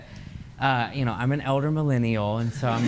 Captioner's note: laughter